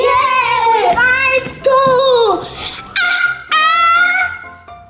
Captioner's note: shouts